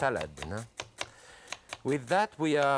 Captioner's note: knife slicing